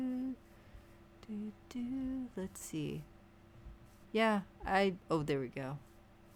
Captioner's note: humming